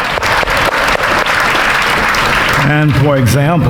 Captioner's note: audience applauding